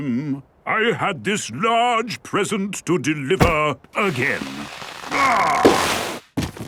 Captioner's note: groaning